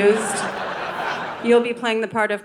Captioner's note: audience laughing